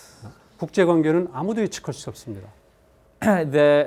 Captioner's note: speaking in Korean